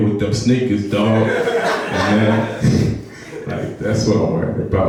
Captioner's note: laughing